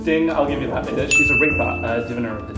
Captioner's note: ding!